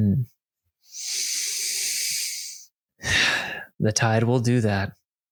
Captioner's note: inhales and exhales slowly